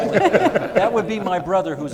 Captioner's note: all laughing